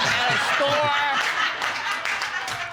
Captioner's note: all laughing